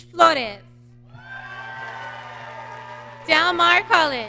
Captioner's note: audience cheering